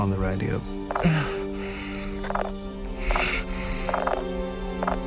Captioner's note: staticking